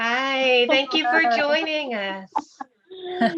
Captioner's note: laughter